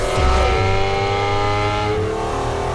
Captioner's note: engine roars